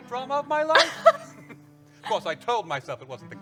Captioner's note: laughs